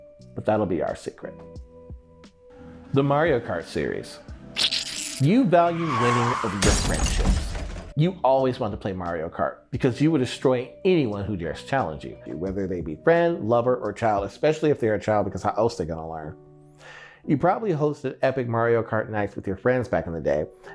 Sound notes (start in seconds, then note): 5.0 car crash